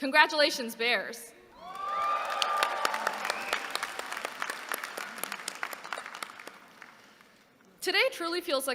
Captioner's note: applause